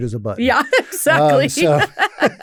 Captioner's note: laughs